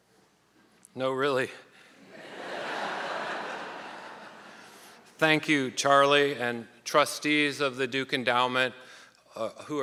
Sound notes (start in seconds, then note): 2.1 audience laughing